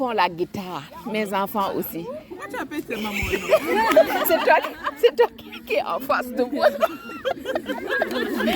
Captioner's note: laughs